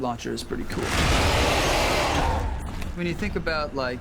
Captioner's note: roars